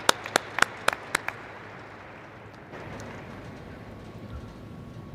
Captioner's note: applause